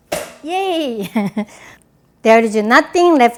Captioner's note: laughs